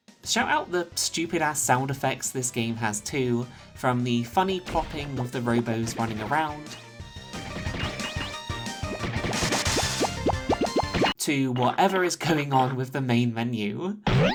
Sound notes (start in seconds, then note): 7.4 plop plop plop plop plop; 14.0 boing